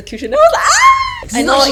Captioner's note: screaming noise